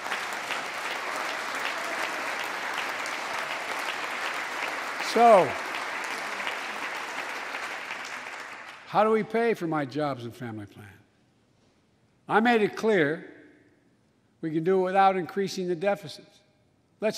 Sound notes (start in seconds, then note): 2.6 applause